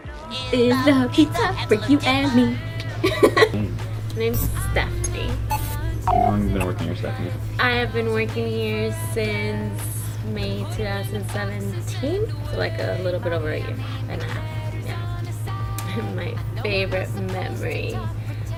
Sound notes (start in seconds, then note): 3.0 laughing